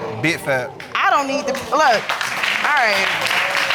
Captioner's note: audience applauding